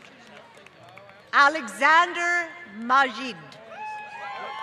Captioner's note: applause